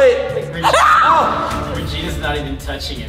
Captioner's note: screams